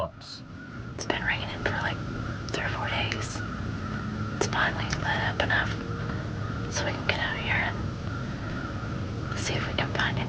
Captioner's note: whispering